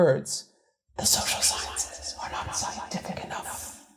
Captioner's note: whispers